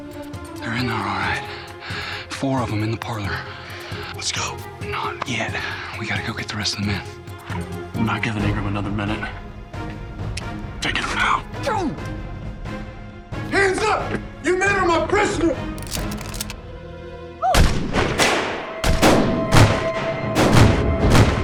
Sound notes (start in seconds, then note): 15.8 guns cock; 17.5 clerk gasps, gun fire